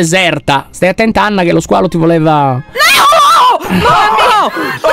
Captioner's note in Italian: urlando